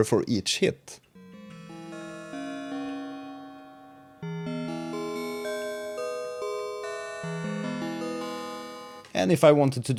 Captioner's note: bell sound